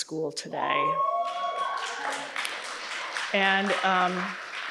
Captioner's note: audience cheers and applauds